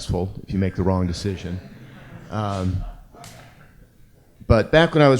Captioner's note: audience laugh